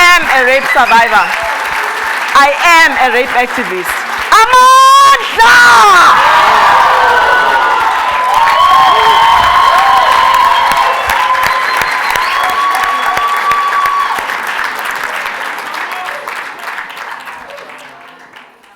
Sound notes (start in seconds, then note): 5.2 cheers and Applause; 5.2 speaking foreign language